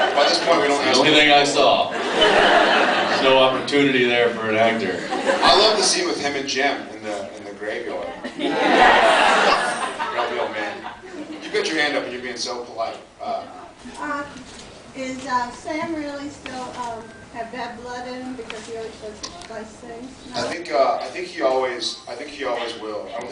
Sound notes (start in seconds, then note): 2.0 laughs; 4.9 laughs; 8.4 many people agreeing